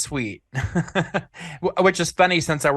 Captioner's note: laughs